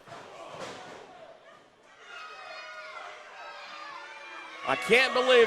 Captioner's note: crowd shouts